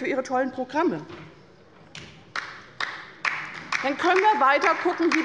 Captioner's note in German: Beifall bei der LINKEN